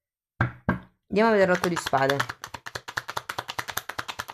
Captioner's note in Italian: Applauso